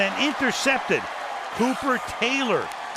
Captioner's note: cheering